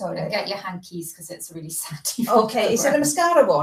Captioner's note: laughs